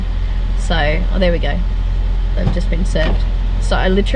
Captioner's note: engine of a car revs quietly; electric window winds up